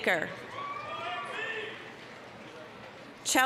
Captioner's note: applause, cheering